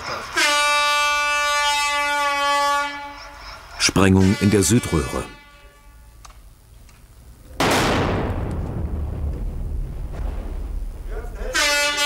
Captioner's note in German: Explosion